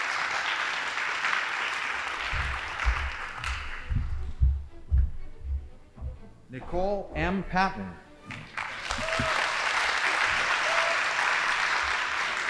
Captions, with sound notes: Nicole M. Pavin. (audience applauding)